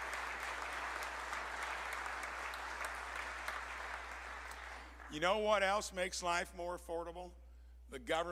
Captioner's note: applause